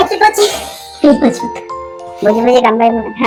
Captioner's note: laughs